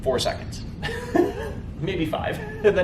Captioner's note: giggle